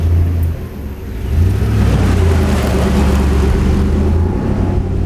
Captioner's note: truck cranks and starts; truck engine humming